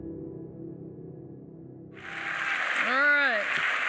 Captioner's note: applause